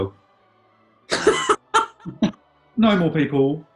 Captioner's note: laughter